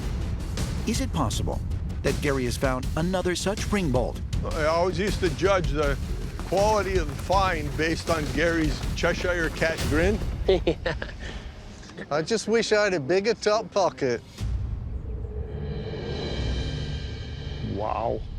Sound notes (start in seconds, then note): 10.3 laughter